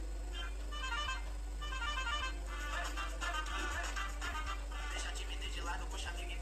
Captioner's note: laughs